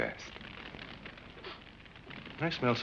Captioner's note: fire crackling